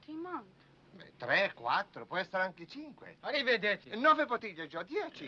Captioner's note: speaking foreign language